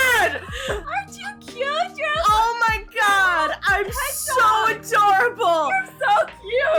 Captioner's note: fully yelling and overwhelmed by cuteness